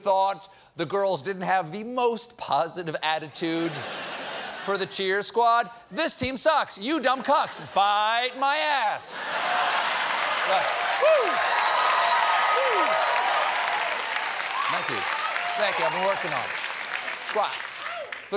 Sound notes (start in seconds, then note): 9.1 cheers and applause